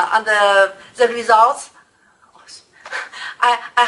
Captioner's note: laughs